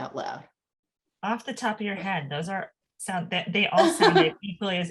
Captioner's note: laughs